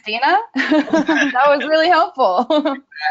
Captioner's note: laughing; laughs